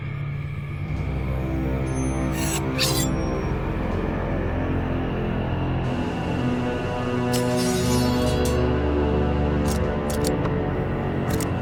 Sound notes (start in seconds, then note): 1.4 dramatic music; 2.3 knife blade singing